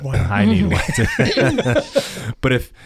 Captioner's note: laughing